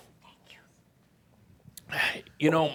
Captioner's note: whispers